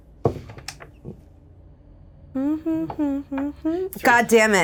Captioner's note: Evelyn hums